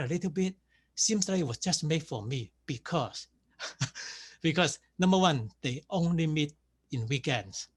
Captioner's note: laughs